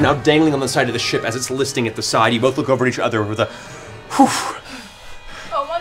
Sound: sigh of relief

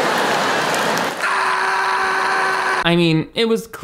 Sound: audience laughing; Matt screaming

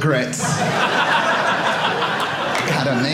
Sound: audience laughing

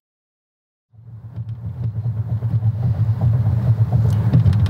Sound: car engine roaring

